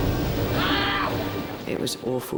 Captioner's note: casualty screaming